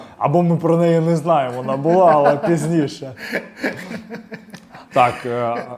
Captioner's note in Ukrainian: сміх